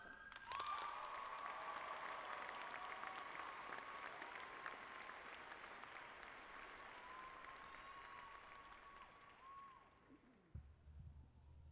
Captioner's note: applause